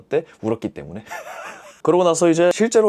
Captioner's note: laughing out loud